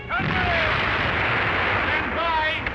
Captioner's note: loud explosion